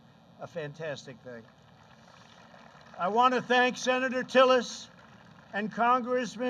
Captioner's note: applause